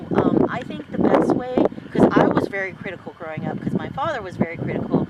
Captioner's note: wind noise